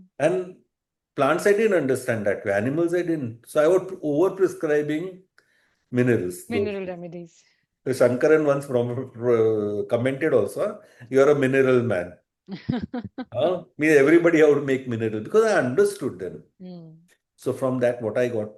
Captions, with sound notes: And plants I didn't understand that way. Animals I didn't. So, I would over-prescribing minerals. Mineral remedies. The Sankaran once from commented also, "You are a mineral man." [laughter] Huh? Me everybody I would make mineral because I understood them. So, from that what I got